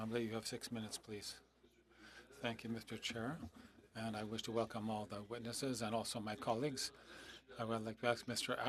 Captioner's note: speaking French